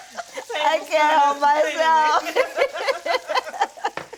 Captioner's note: laughing; women laughing